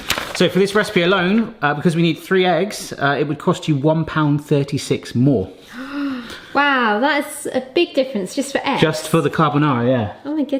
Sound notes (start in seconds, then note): 5.6 gasps